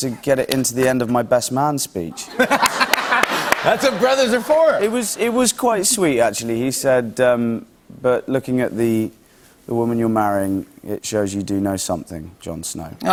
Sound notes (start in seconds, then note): 2.2 laughs